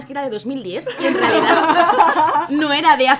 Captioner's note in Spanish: risas